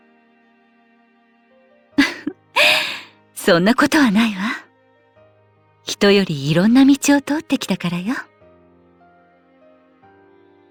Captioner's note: laugh